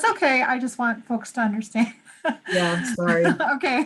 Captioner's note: laughs